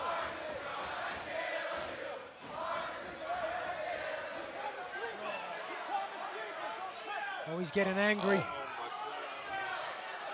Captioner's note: fans chanting